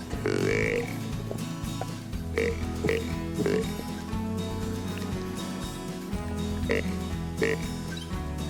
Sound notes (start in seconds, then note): 2.2 animal calling